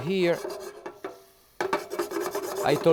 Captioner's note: pan scraping